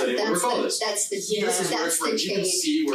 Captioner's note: group chattering